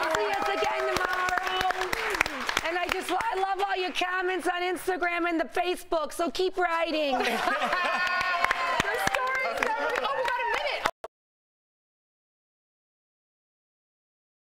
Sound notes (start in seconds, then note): 5.3 laughter